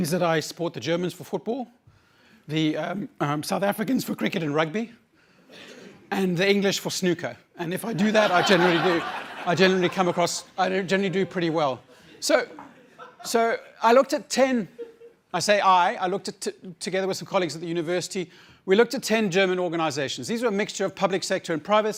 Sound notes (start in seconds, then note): 13.2 laughter